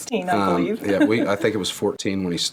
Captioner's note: laugh